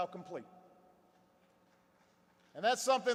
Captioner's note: applause